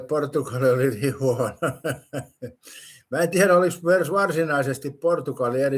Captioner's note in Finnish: naurua